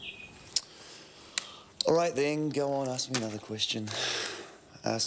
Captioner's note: sighs